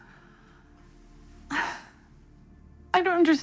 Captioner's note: exhales